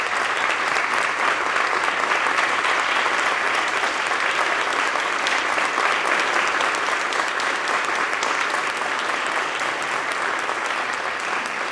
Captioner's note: applause